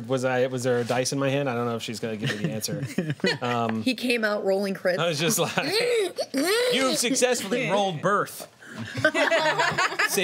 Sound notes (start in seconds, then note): 2.2 laughter; 5.1 imitating wailing; 8.8 laughter